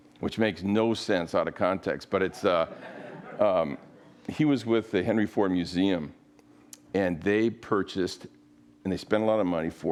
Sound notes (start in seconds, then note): 2.3 audience laughs